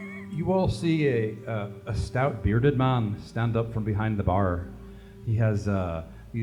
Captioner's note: grim, Irish accent